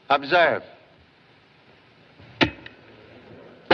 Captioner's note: clicks